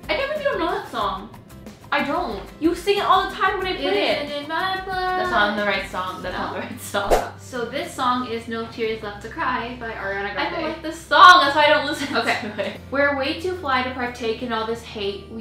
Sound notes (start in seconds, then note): 7.0 thwip sound